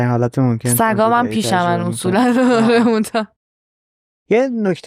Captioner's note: laughs